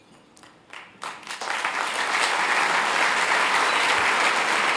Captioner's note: applause